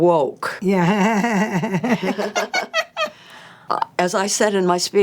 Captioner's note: both laughing